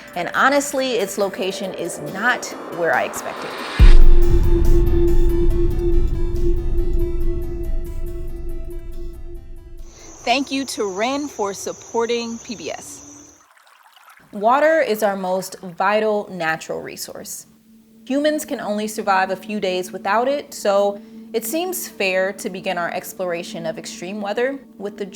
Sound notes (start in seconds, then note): 4.2 intense music; 13.4 water babbling